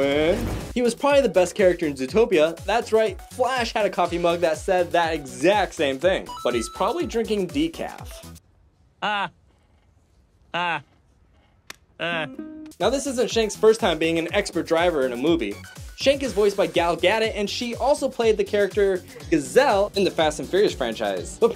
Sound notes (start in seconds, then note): 9.0 Flash laughs